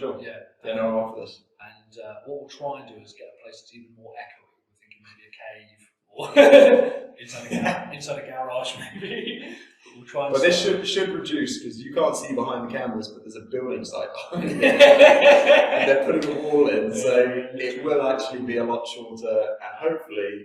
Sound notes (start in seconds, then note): 6.2 laughs; 14.2 laughs